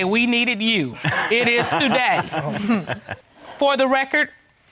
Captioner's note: all laughing